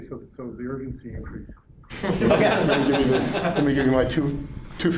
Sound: laughter

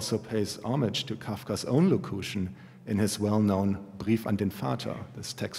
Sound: german

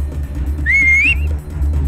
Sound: whistling

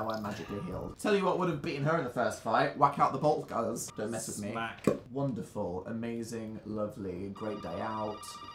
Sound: pop

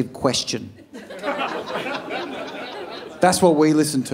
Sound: audience laughing

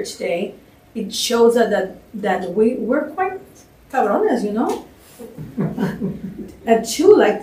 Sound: spanish

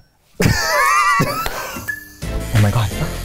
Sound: laughter

